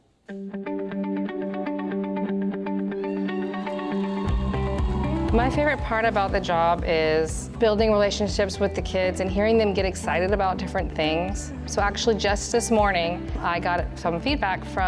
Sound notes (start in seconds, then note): 0.2 upbeat music; 3.6 audience cheering and applauding